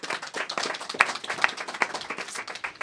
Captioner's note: applause